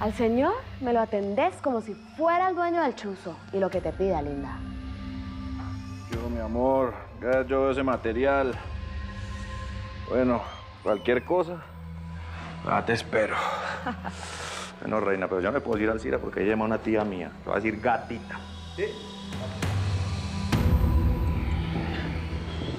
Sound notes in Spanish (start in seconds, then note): 13.5 lorelei ríe